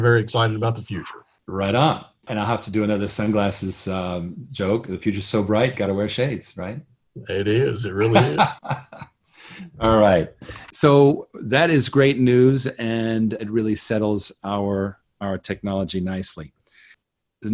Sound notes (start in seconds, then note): 7.3 laughs